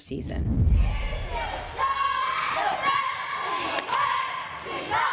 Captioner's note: indistinct girls cheering